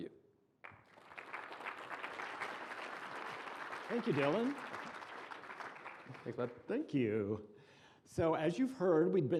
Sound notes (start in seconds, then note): 0.6 applause